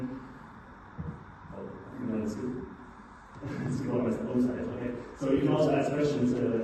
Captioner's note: laughs